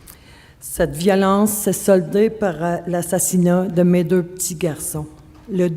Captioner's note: speaking French